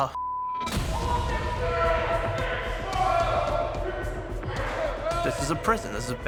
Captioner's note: dramatic music; inmates yelling